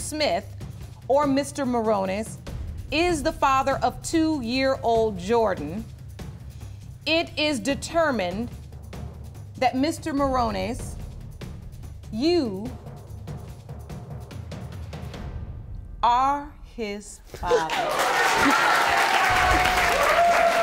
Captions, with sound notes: is the father of 2-year-old Jordan, it is determined that Mr. Morones, you are his father. (SOBBING) (AUDIENCE CHEERING)